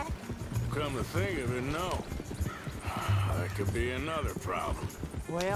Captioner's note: sighs